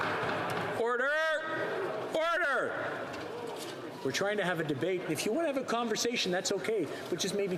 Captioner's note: some Applause